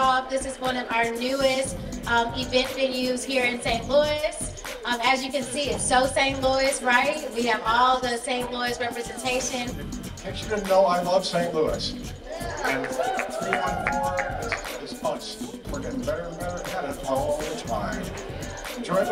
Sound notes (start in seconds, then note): 12.2 people cheering